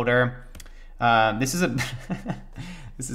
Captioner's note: laughs